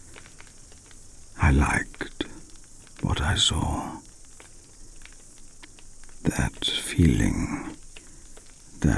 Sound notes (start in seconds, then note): 4.3 fire crackling and night insect buzzing